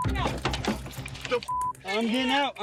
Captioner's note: beep